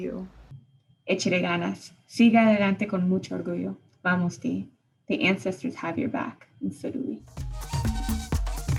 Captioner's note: speaking spanish